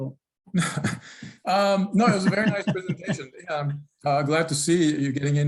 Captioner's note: chuckles